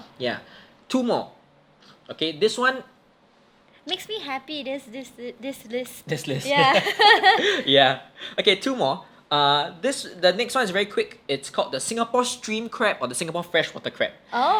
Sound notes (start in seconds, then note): 6.4 both laugh